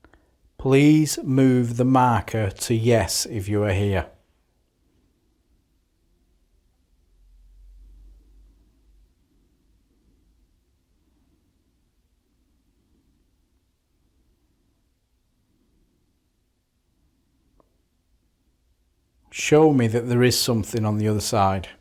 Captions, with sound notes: Please move the markers to yes if you are here. [Silence] Show me that there is something on the other side.